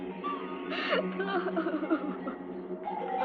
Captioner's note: Leslie sobbing; eerie music